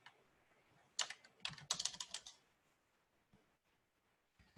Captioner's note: keys tapping